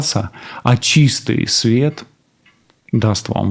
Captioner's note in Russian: none